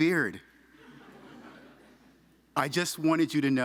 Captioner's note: audience laughing